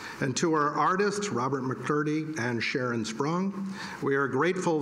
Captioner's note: none